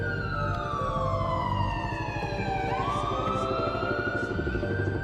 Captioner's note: alarm sounds; helicopter sounds